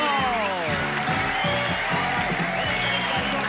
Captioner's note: audience cheering